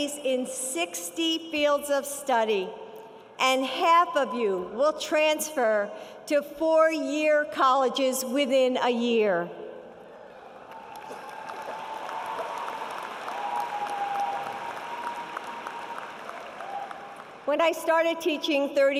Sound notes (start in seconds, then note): 10.2 cheering and applause